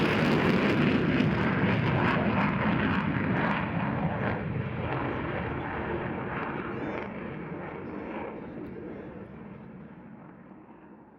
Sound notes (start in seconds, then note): 4.2 jet engine fades in distance